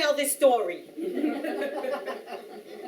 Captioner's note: audience Laughing